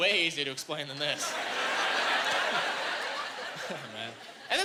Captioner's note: laughing